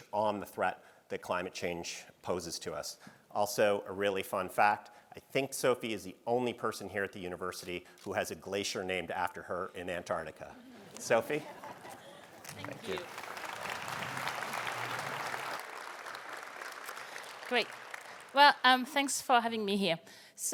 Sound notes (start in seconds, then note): 10.6 audience laughing; 13.9 audience applauding